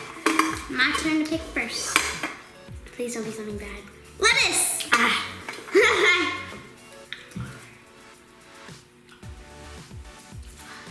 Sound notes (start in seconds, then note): 5.7 laughs